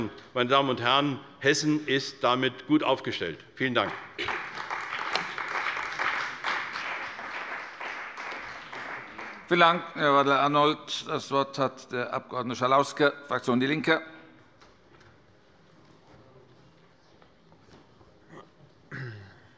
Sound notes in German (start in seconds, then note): 3.8 Beifall bei der CDU und dem BÜNDNIS 90/DIE GRÜNEN